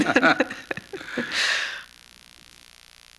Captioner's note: laughter